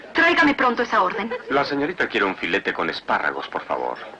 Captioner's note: speaking Spanish